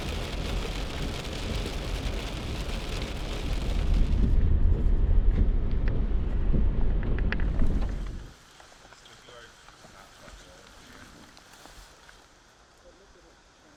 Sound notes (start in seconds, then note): 5.0 sound of wipers going across windshield; 9.8 background talking of group